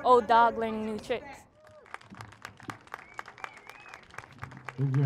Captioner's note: applauding